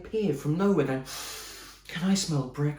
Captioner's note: sniffs